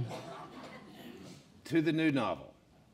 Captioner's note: laughing